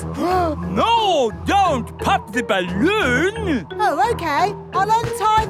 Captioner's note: gasps